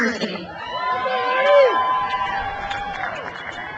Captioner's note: crowd cheers